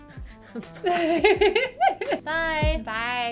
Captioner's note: laughter